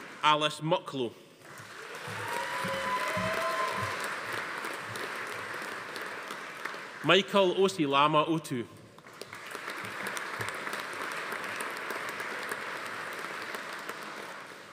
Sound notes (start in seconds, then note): 1.4 audience applauding; 1.6 attendees cheering; 9.0 audience applauding